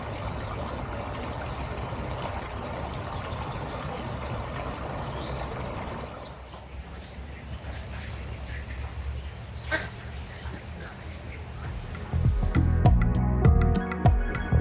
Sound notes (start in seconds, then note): 9.6 duck quack; 11.7 chill music